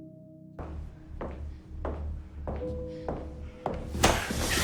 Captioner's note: Serena's footsteps echo across the floor